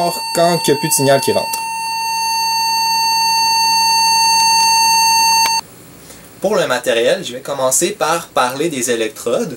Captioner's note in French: biiiiiiiiiiiii